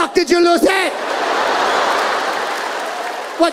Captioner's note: audience laughing